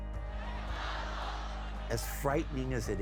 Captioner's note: crowd chanting